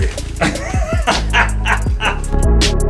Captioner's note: laughs; gentle electronic music